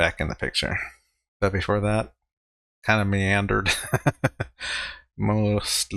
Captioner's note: chuckling